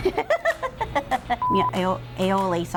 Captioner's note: laughing; beep